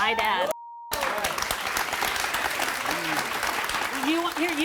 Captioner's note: applause